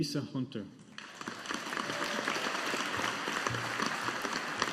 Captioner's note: audience applauding